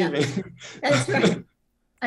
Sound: laughter

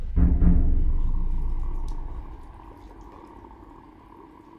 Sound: monster growls

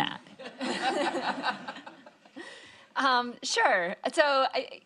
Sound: all laughing

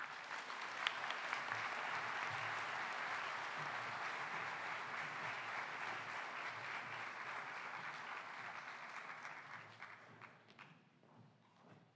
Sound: applause

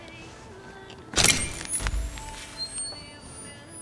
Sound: flashbulb crackles

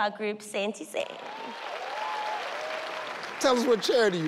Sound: audience cheering and clapping

